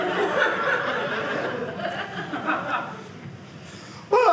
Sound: audience laughing

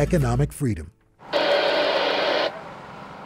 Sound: radio static

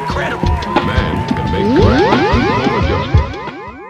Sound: beam up sound fx

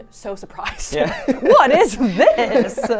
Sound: laughing

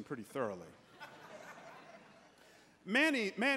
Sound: congregants laughing

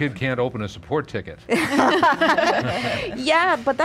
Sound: laughing

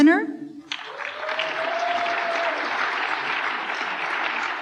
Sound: applause

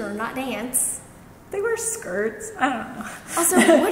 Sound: speaker 1 giggles

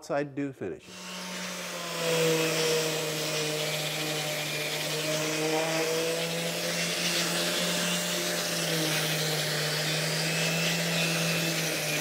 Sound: machine whirring

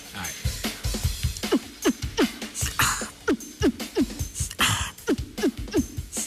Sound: beatboxes

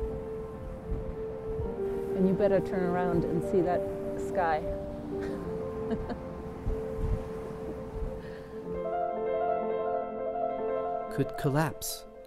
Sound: laughter

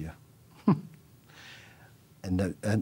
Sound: laughs

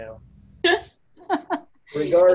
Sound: laughs

